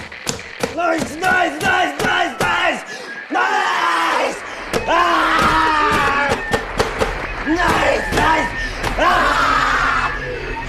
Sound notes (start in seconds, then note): 4.7 screams, bangs radio repeatedly